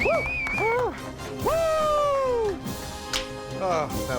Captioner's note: cheers and applause